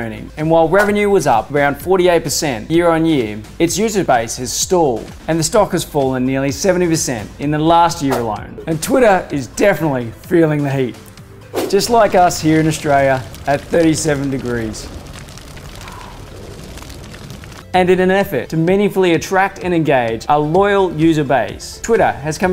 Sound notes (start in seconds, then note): 14.9 sizzling; 14.9 breath whooshes out